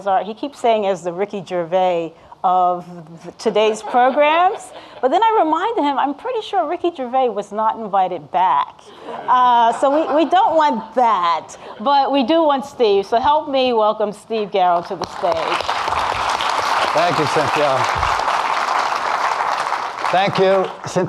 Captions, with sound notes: he keeps saying as the Ricki Gervais of today's programs. (audience laughing) But then I remind him, I'm pretty sure Ricky Gervais was not invited back. So we don't want that. But we do want Steve so help me welcome Steve Garrow to the stage. (audience clapping) - Thank you Cynthia.